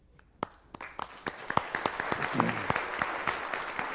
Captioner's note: applause